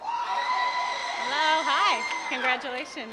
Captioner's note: applause